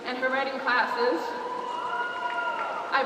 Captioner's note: cheers